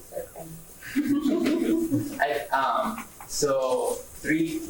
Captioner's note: laughter